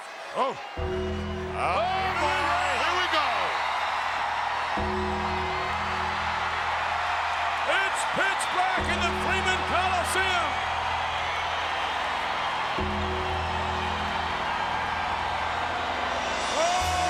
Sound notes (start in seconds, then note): 0.8 gong sounds; 4.8 gong sounds; 5.0 crowd cheering; 12.8 gong sounds; 13.0 crowd cheering